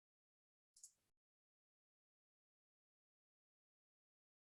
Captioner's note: mouse clicking